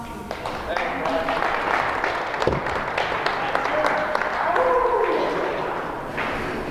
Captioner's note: audience clapping